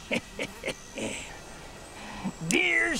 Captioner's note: chuckles